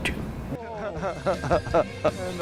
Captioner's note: laughing